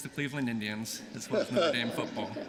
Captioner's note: laughter